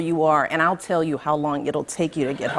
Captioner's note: laughter